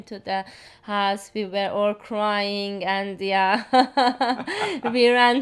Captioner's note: laughs